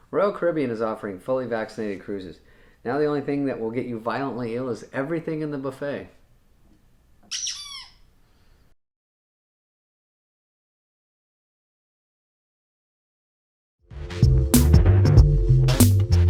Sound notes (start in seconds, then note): 7.3 squeaky chew-toy sound effect